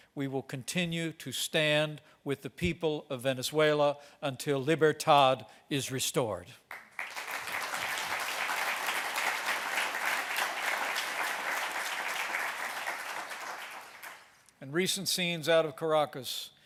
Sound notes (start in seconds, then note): 6.6 applause